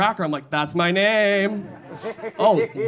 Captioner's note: audience laughing